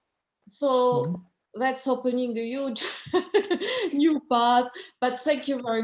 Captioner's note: laughs